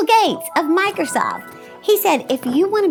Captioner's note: Microsoft theme chimes